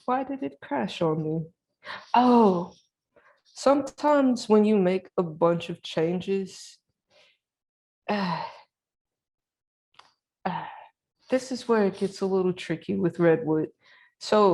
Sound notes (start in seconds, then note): 8.1 sighs